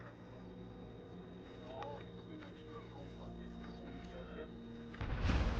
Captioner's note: speaking foreign language; dramatic music